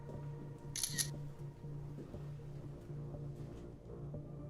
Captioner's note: camera clicking